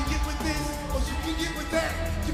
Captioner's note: crowd cheering